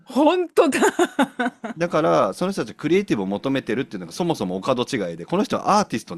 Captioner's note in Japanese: 笑い